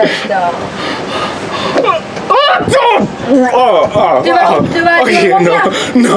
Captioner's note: breathing heavily; barfing sound